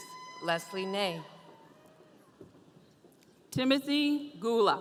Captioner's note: audience cheering